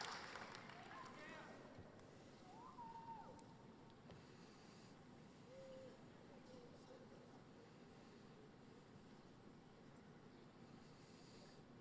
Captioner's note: applause